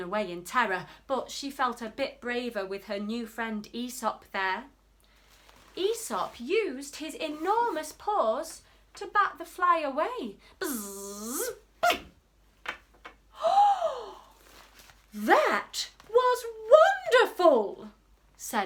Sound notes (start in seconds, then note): 10.6 gasps; 10.8 splat